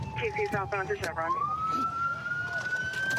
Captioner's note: sirens